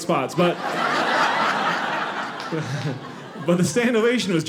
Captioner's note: audience laughing